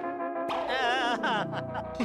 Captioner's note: chuckles